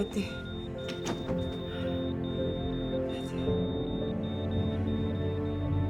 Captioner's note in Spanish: Ruido al cerrar la puerta